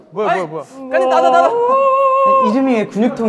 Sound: holding in his laughter

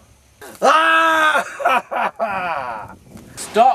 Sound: manic laughter

